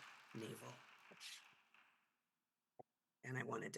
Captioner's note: attendees applauding